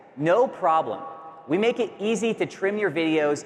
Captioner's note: none